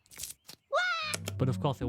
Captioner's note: scream